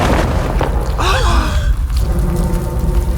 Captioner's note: gasps